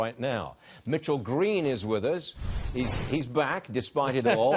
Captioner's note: laughter